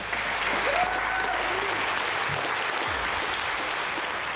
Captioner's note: audience applauds